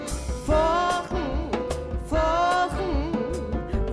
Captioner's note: none